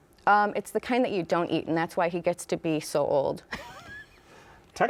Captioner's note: laughs